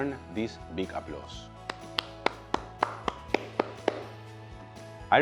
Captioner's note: applauds